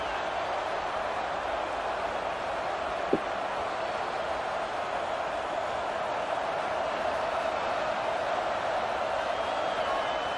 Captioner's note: crowd cheering